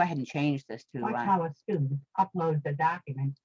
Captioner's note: recorded voice